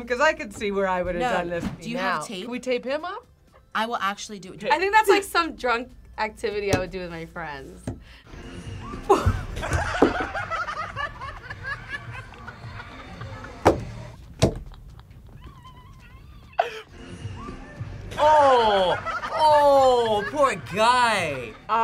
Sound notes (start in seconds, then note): 8.9 both laugh